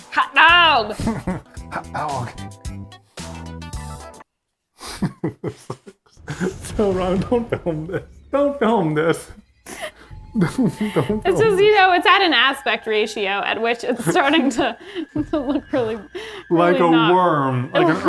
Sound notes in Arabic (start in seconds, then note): 2.6 موسيقى مبهجة; 4.8 يضحك إيفان